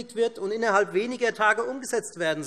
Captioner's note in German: none